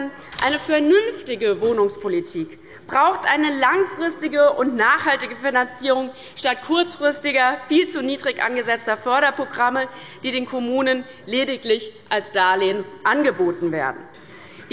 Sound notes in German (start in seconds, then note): none